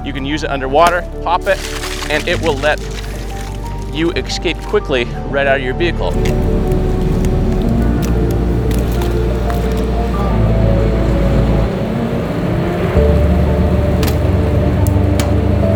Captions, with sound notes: You can use it under water. Pop it and it will let you escape quickly right out of your vehicle. (mud splatting) (upbeat instrumental music continues)